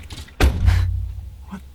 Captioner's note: shuts door